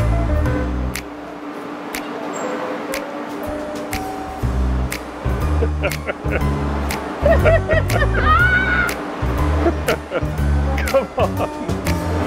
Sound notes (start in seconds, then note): 5.6 laughing; 7.2 people laughing; 8.2 exclaiming in fear; 10.7 laughing